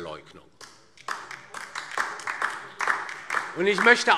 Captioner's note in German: Beifall DIE LINKE